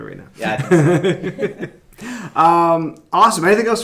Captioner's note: laughing